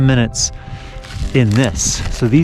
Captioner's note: dry wood crackling